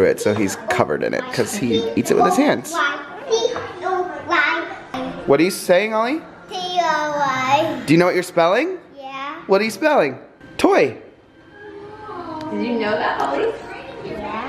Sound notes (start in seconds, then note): 4.3 babbling